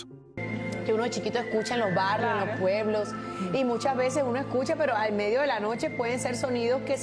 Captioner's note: in Spanish